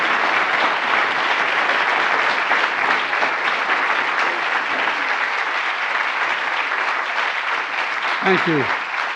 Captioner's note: applause